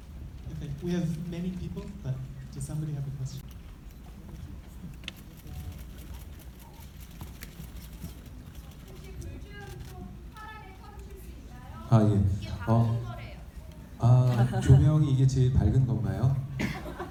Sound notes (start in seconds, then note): 9.2 audience member speaking in foreign language; 14.9 speaking in foreign language